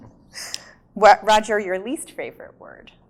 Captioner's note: laughs